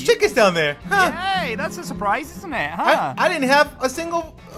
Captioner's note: sarcastically